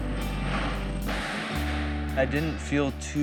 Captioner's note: wind gusts